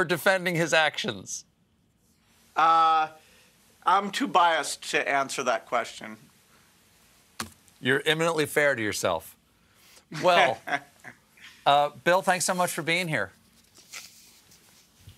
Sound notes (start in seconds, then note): 10.1 laughter